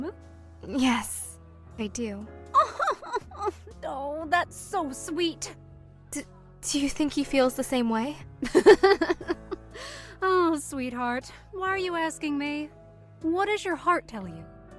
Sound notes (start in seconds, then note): 8.5 laughs